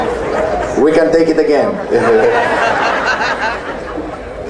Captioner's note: laughs